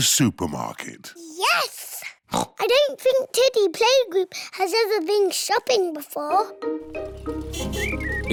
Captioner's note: oinks